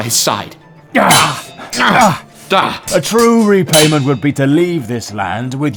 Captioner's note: swords Clash